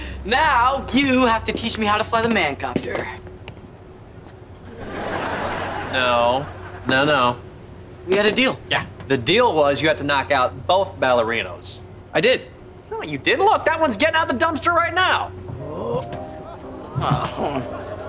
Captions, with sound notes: Now, you have to teach me how to fly the Man Copter. No. No, no. We had a deal. Yeah. The deal was you had to knock out both Ballerinos. I did. No you didn't. Look, that one's getting out of the dumpster right now. [groaning] Oh.